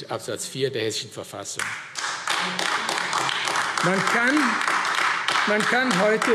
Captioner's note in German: Beifall AfD